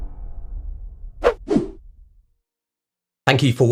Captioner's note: graphics whooshing